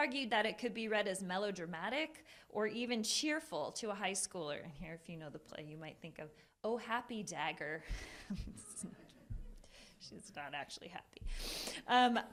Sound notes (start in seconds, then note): 8.1 laughter